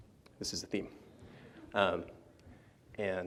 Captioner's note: laughter